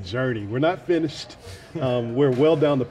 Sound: laughing

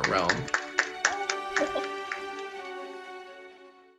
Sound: applause

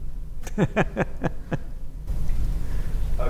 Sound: laughs

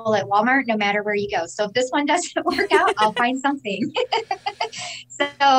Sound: laughs

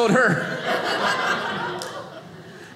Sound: audience laughing

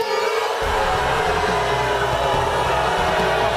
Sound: crowd jeers

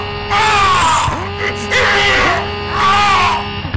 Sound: yelling

